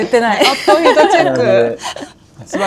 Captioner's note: laughs